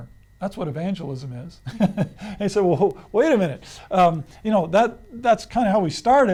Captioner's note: laughs